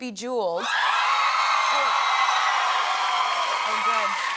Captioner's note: cheers and applause